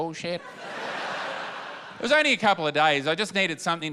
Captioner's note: laughter